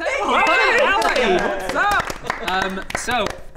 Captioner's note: applause